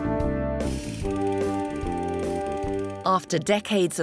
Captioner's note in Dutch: projector zoemt